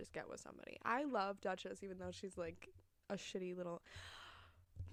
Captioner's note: gasp